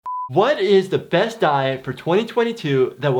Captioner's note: beep